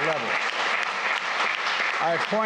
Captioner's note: applause